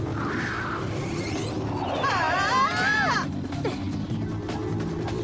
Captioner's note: wailing